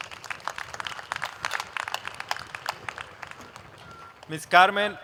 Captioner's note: applause